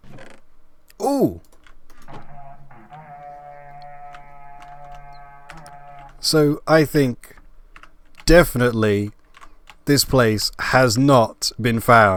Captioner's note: horn Sound